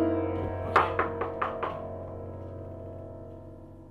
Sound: knocking

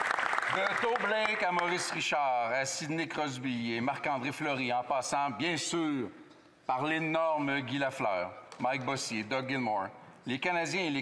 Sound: applause

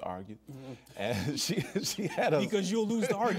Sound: laughs

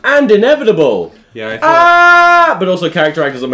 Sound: screaming

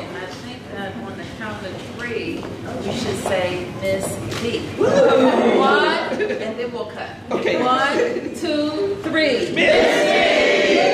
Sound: laughter

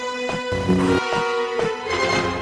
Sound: lightsaber hums

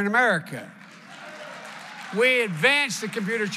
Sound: applause

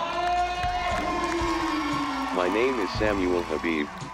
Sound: crowd cheering

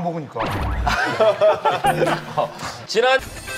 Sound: haha

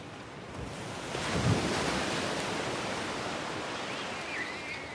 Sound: sea waves splashing

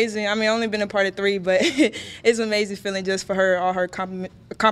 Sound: laughs

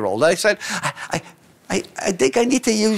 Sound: talking like a child

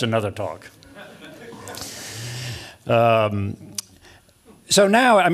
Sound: laughter

